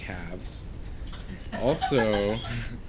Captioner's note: background laughter